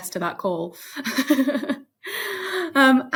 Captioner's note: chuckling